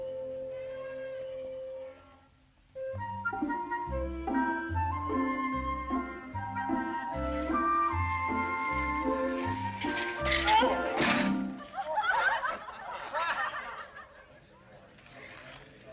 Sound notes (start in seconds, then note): 4.8 playful music; 11.3 students laugh